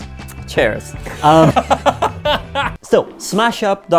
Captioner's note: laughing